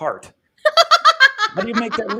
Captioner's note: laughter